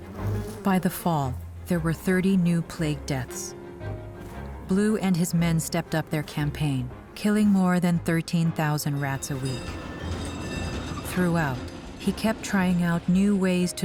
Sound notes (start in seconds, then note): 8.9 bell ringing